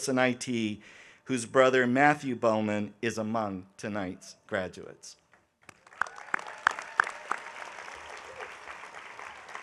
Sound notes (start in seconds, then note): 5.6 audience applauding